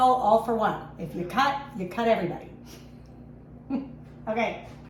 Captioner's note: laughs